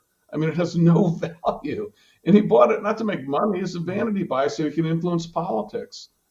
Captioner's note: laughs